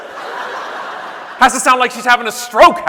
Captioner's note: audience laughing